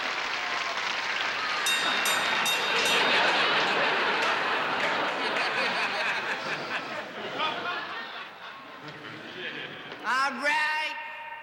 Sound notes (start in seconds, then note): 1.5 bell rings